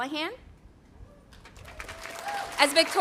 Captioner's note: audience applauding